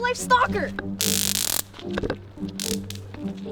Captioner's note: taser noises